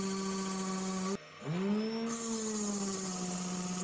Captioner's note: machine whirls